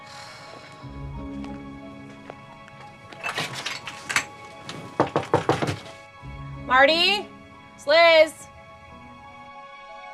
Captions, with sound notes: (sighs) (door opens) (Liz knocks) Marty, it's Liz.